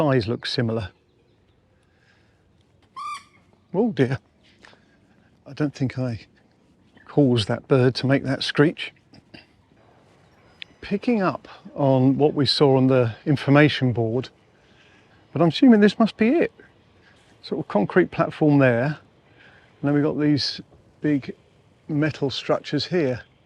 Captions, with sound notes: Size look similar. (Bird noise) Oh, dear, I don't think I caused that bird to make that screech. Picking up on what we saw on the information board I'm assuming this must be it. Sort of concrete platform there. And then we've got these big metal structures here.